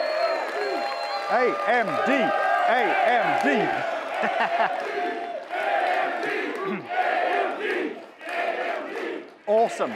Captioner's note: chanting